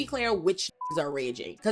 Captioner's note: beep